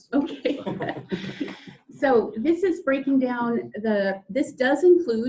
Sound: laughs

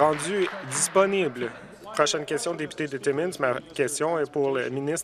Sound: some Applause

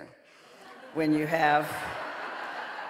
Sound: audience laughing

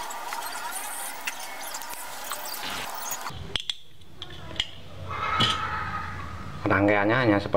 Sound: clap

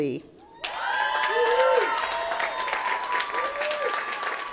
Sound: applause

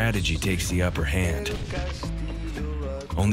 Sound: explosion

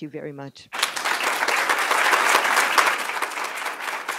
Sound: audience claps

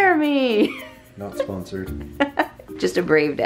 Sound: laughs

